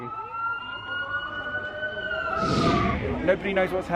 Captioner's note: sirens blare